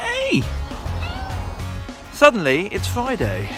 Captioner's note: cat meows